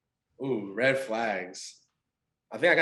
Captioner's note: exclaiming